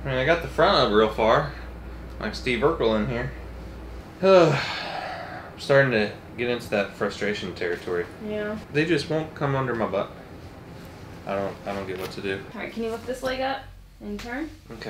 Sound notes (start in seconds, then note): 4.2 exhales